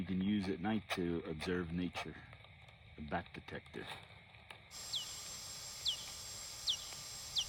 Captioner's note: squeaky bat noises